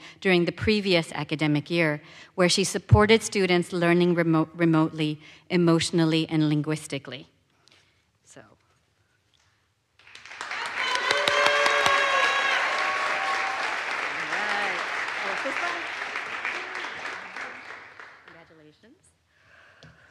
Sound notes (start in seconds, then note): 10.0 audience applauds; 10.2 audience cheers